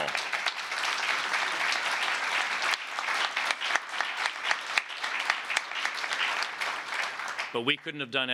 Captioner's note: applause